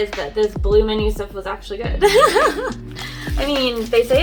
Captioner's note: laughs